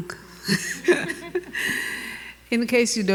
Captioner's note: laughing